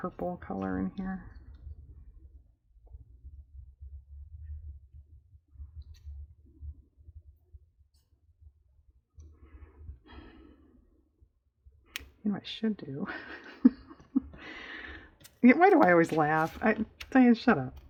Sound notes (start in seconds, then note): 13.1 laughs